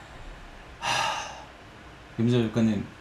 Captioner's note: sigh